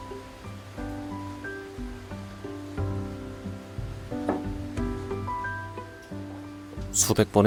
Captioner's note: sound of rain